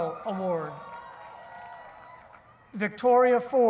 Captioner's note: cheering